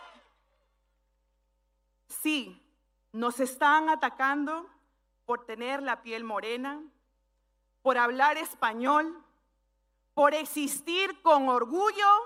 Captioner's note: speaking spanish